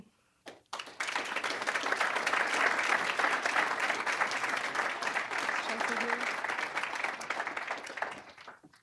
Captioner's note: applause